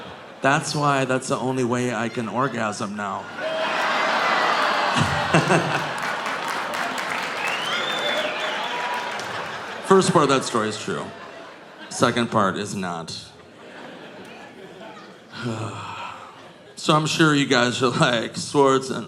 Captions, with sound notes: That's why that's the only way I can orgasm now." (audience laughing) (audience groaning) (audience applauding) First part of that story is true. Second part is not. (sighs) So I'm sure you guys are like, "Swardson,